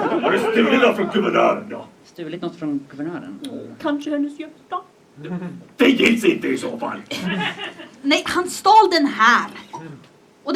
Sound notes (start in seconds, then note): 7.1 laughter